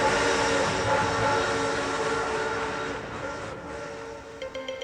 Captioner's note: train whistle blows